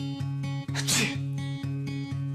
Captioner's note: man sneezes